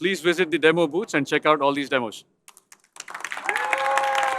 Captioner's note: applause